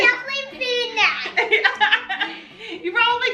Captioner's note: laughs